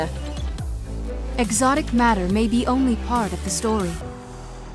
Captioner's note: voiceover